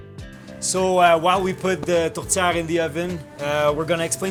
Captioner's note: speaking in French